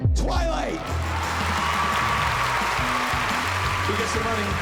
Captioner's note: cheering and applause